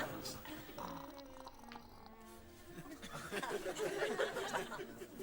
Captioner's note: gurgling; audience laughing